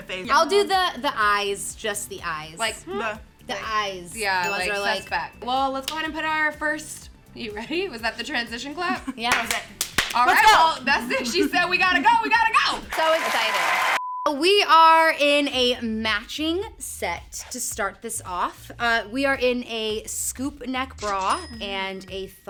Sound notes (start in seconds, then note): 9.3 clapping; 9.3 claps; 12.9 crowd applauding; 14.0 beep